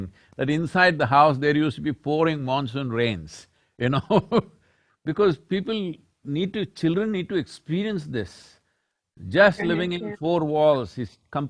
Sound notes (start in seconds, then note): 4.3 laughs